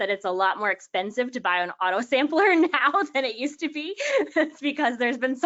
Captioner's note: laughs